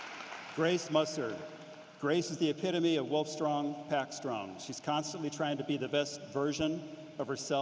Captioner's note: applause